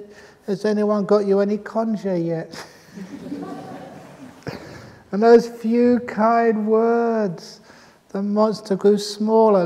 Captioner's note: laughter